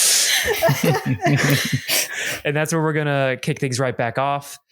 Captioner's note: laughter